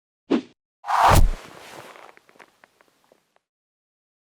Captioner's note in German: Wuuuusch